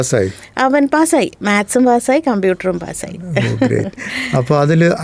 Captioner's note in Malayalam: പൊട്ടിച്ചിരി